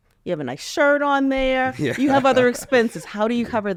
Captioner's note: laughs